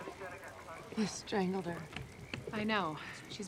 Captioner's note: officers chattering